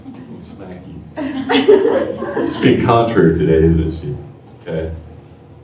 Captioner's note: laughter